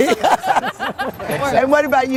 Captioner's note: laughter